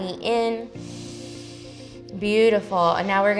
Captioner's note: inhales